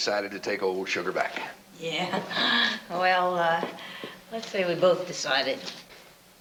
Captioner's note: chuckles